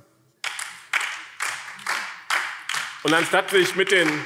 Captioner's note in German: Beifall BÜNDNIS 90/DIE GRÜNEN